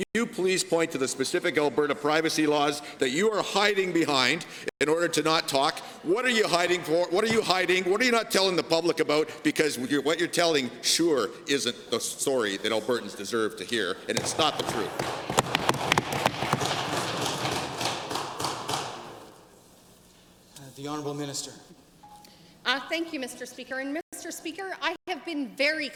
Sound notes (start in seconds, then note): 16.0 applause